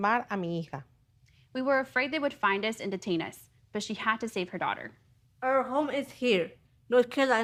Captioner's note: speaking in native tongue